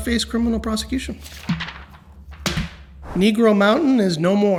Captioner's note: paper rustles